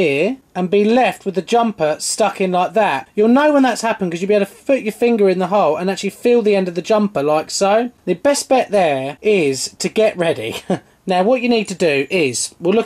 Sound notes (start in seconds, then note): 10.4 laughs